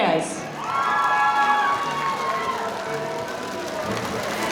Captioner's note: audience cheering